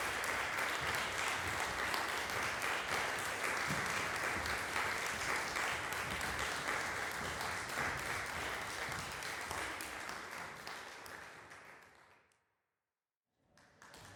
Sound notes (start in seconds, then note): 6.8 applause fades; 12.1 silence